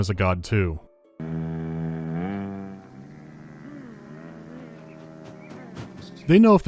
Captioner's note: reverent humming